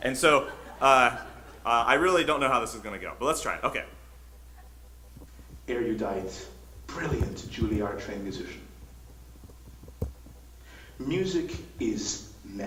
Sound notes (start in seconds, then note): 0.2 audience laughs; 5.8 computerized Voiceover